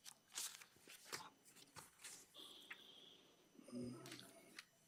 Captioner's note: paper rustling continues